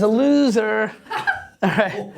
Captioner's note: laughter